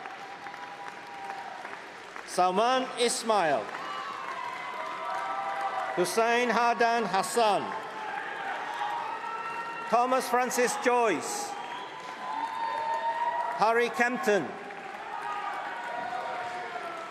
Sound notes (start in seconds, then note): 0.1 applause; 4.7 cheering; 13.5 cheering